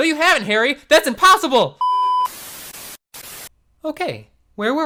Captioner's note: TV glitching